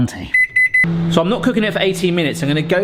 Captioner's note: beeps